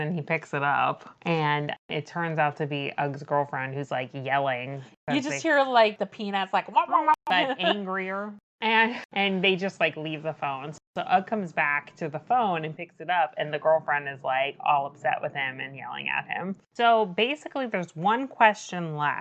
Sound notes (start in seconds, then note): 5.8 makes Peanuts teacher noise